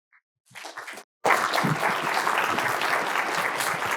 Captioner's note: students clap